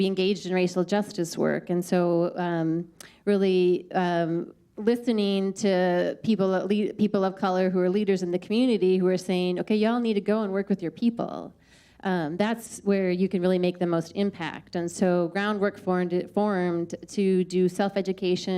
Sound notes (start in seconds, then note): none